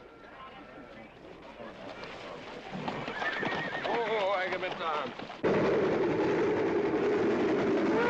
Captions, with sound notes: (NEIGHING) Whoa, Agamemnon.